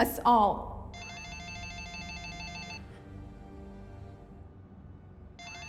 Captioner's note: phone ringing